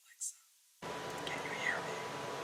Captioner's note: whispering more quietly